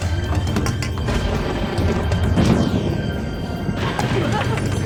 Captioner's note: thunder crashing